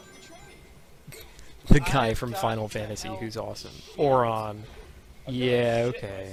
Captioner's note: chuckling